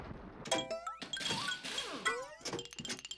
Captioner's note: metallic clanging